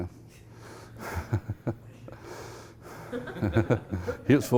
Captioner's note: laughing